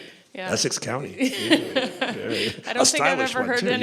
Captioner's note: laughter